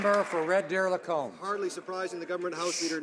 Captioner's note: some Applause